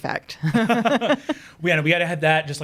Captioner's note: laughing